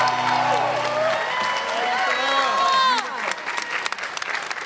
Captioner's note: everyone cheers and applauds